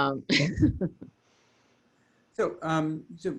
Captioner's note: both laugh